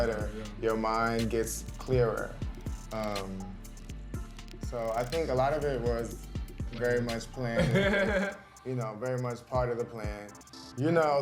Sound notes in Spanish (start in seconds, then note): 7.6 Odessa ríe